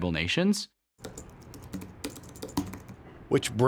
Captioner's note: keyboard clanking